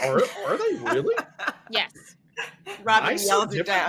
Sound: laughs

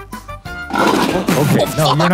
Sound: lid banging

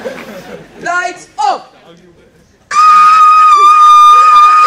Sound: screaming

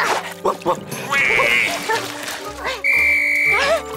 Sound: barks; quacks; blows whistle

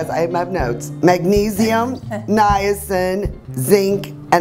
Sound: giggling

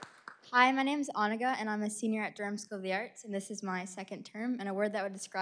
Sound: applause

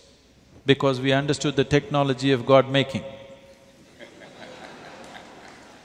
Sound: laughter

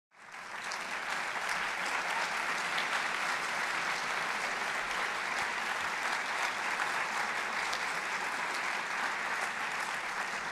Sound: applause

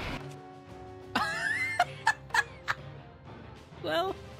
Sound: laughter

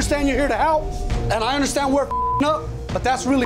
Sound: beeping

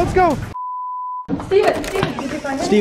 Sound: beep

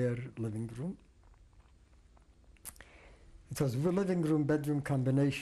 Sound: pauses for 3 seconds

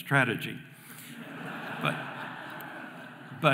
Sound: audience laughing

